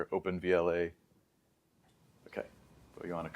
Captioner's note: pause